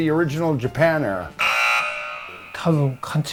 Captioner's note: buzzer; speaking in foreign language